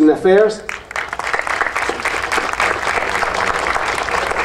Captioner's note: audience applauding